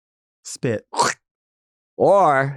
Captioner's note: Nymphia mimicking spitting